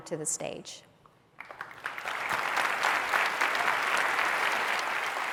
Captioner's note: applause